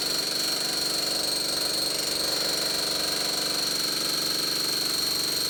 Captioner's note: jackhammer pounding